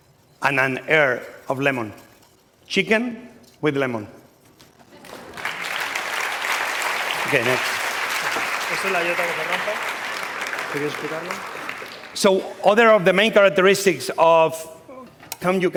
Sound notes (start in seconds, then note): 4.9 applause; 9.5 speaking spanish